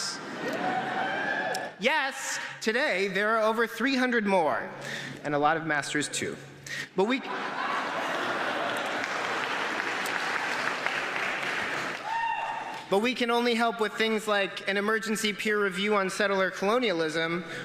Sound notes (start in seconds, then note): 7.2 laughter; 10.0 applause